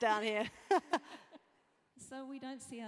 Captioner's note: laugh